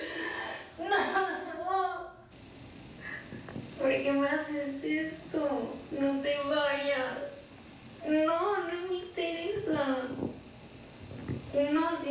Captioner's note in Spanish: Sollozos